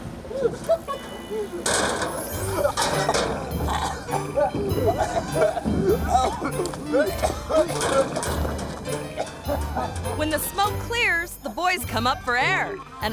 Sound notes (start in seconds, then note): 0.2 people laughing; 3.9 people coughing